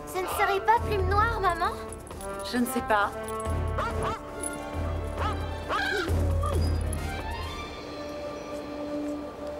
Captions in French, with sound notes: C'est Blackfeather, maman ? - Je ne sais pas. [les clés tintent] [chien gémissant]